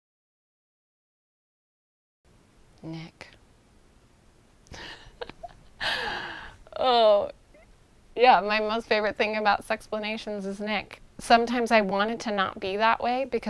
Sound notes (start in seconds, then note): 4.7 laughs